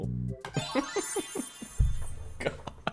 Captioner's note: laughs